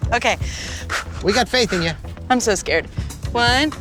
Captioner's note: pat